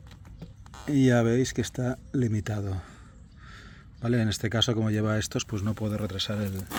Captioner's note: sigh